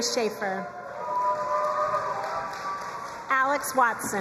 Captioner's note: crowd cheering and applauding